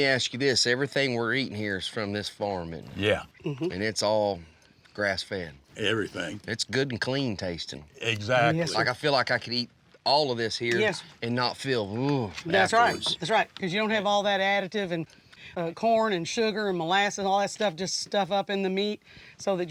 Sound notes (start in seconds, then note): 12.8 imitates sounding tired